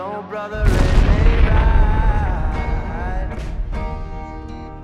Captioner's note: napalm explodes